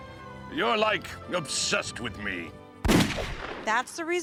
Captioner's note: fires rifle